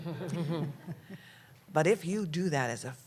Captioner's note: laughter